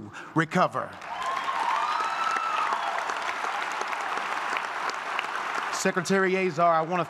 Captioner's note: applause